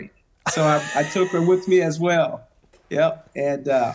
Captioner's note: laughing